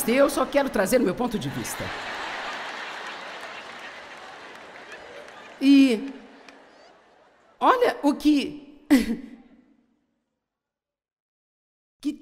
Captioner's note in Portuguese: audiência ri